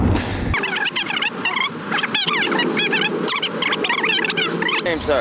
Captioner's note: sped up blah blah blah